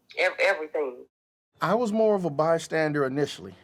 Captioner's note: phone Voice